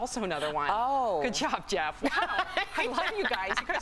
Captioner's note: laughter